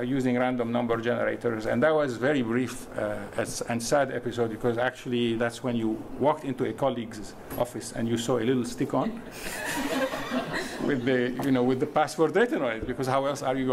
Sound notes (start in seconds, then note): 9.4 laughing